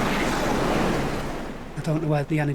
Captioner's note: wind whooshing; water whooshing; waves crashing